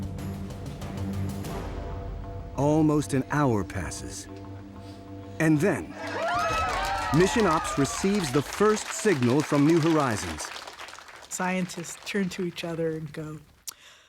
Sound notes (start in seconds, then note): 5.9 cheering and applauding